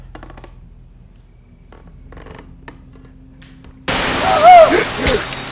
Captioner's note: insects chirping; Caroline moaning